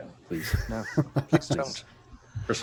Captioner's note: laughter